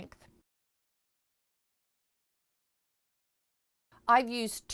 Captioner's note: no Sound Present